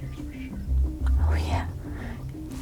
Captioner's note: whispering